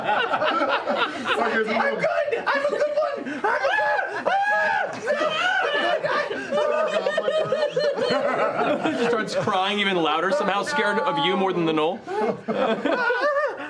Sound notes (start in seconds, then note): 0.2 laughing; 3.5 screaming